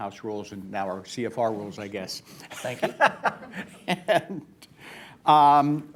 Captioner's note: laughs; laughter